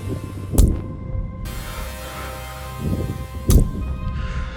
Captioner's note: hammering sounds